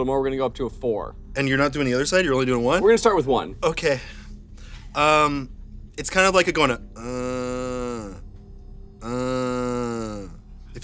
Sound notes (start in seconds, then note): 9.0 groans